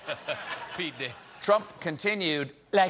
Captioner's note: laughter